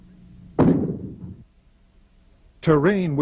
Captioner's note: bomb exploding